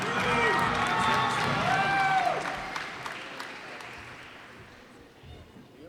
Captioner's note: cheers and applause